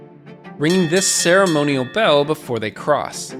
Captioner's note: bell dinging